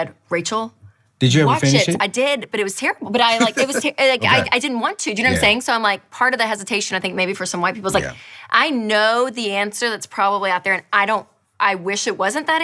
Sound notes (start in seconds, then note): 3.3 chuckles